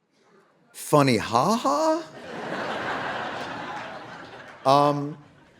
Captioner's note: audience laughing